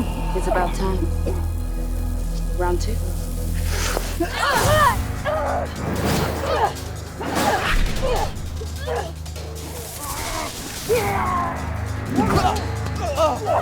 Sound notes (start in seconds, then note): 4.4 dramatic orchestral music; 4.4 grunting